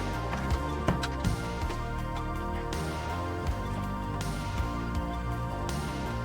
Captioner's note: gentle, electronic music; door clatters